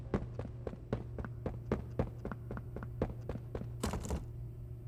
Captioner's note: door creaks; footsteps